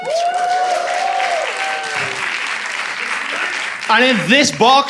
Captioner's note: cheering